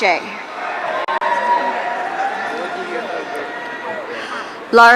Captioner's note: audience cheering